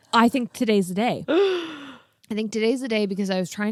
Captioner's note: gasps